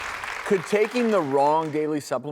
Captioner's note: audience clapping